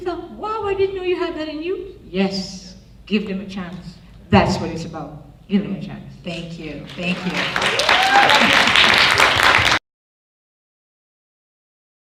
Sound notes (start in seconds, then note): 6.9 audience applauds